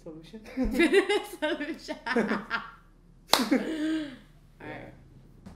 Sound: laughter

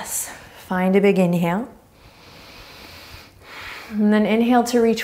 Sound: inhaling deeply

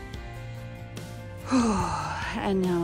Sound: sigh

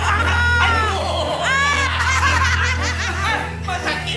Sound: cackling

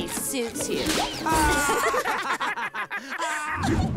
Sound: laughing

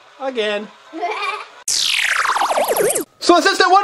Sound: laughs

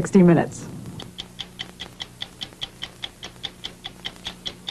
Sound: clock ticking

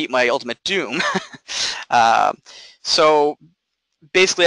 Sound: laughing

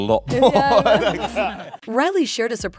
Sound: laughing

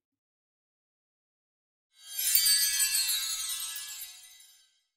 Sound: chimes

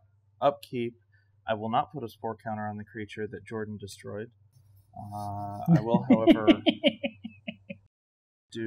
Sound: chuckles pettily

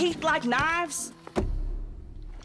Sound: loud thump

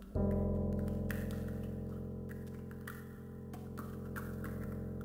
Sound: rhythmic tapping in background

